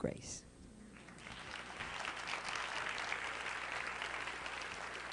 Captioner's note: applause